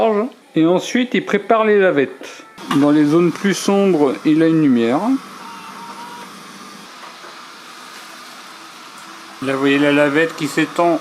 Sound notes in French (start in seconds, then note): 7.8 cri